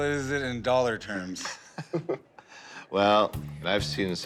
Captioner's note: laughs